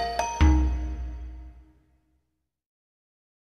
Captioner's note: silence